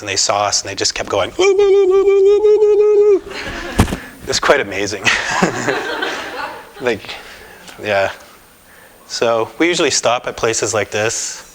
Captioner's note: laughter